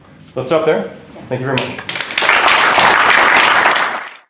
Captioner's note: applause